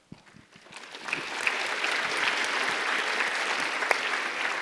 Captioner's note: audience applauds